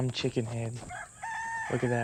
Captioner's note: rooster crows